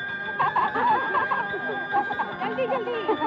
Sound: laughing

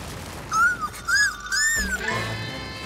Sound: squealing

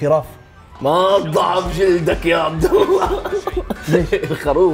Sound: laughs

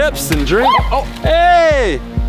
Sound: yelps

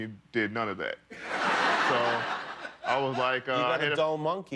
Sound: laughter

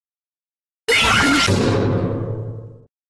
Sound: BB screaming

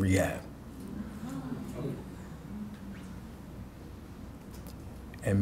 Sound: audience murmuring

